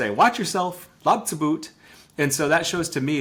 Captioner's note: speaking in Lushootseed language